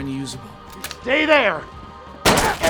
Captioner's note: gun shooting